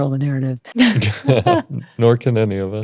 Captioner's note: both laughing